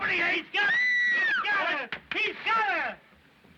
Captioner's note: screaming Continues